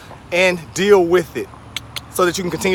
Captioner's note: clicks tongue twice